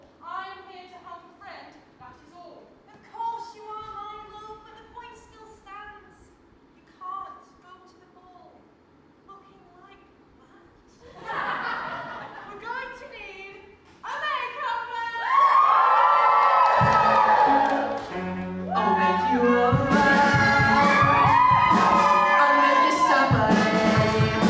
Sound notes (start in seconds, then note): 11.0 audience laughs; 15.8 audience cheers